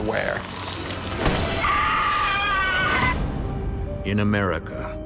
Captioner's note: woman screaming